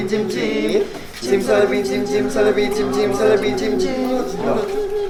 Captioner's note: ~quietly~